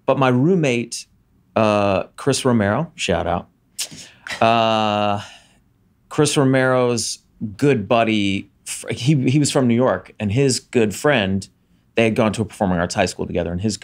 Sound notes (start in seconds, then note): 4.2 chuckles